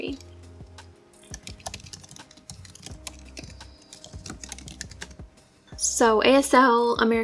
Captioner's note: typing